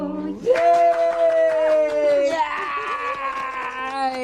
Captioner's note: clapping